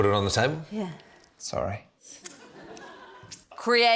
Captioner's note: laughter